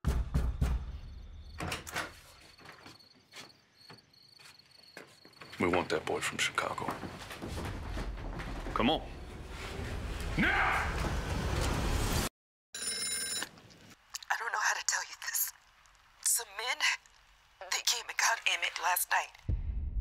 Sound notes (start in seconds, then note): 1.6 bangs on door; 12.7 phone rings